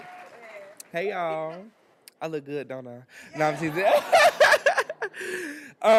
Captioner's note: laughs